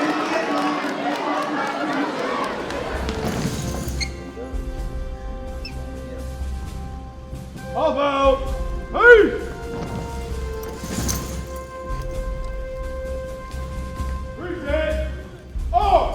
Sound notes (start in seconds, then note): 3.6 energetic music; 9.3 boots thud